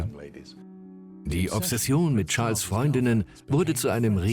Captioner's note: voiceover